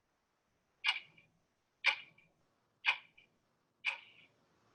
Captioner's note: clock ticking